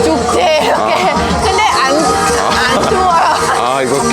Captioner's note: laughing